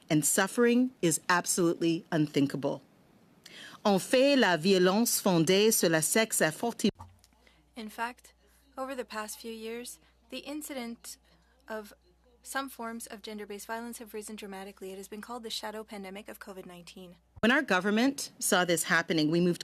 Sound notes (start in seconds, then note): 7.8 speaking French